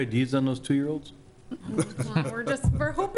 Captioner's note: laughing